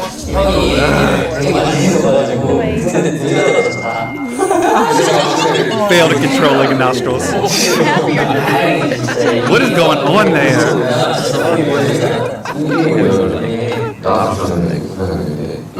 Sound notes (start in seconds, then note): 9.0 haha